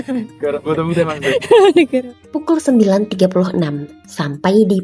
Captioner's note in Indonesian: tertawa